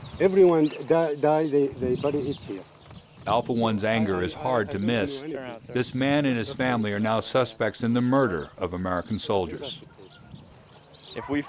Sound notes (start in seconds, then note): 3.6 voiceover